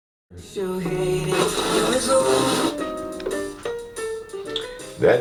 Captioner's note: static, music tuning in